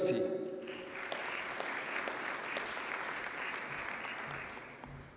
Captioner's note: audience applauds